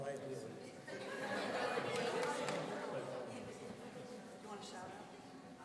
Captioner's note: audience laughing